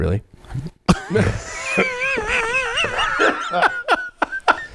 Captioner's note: everyone laughs